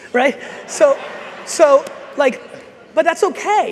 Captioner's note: audience laughs